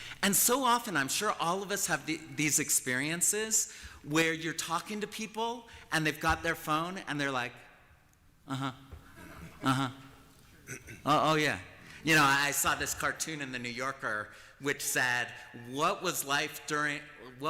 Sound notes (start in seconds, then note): 8.9 chuckling